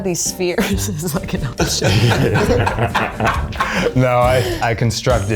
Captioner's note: they laugh